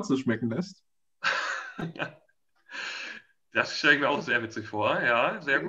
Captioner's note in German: lachend